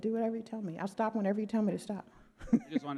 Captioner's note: laughs